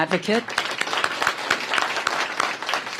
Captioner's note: applause